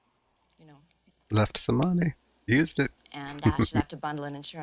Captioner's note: chuckling